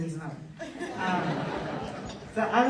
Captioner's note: audience laughter